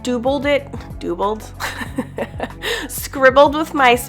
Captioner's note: laughs